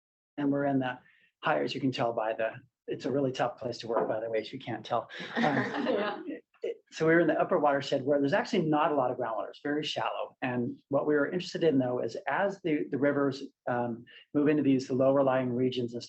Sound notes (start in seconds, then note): 5.2 laughter